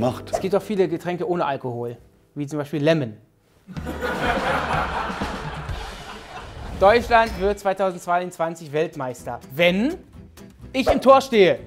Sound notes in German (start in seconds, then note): 3.6 Gelächter